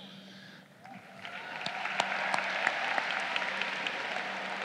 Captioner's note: crowd cheering